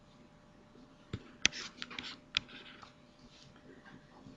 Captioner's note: mouse swoops and clicks